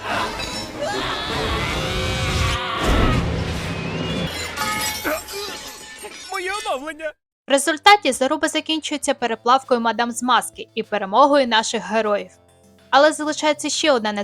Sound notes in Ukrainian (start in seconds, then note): 2.9 крик; 2.9 стогін